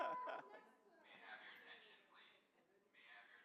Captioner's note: laughter; voiceover